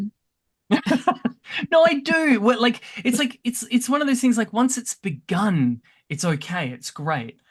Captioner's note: laughs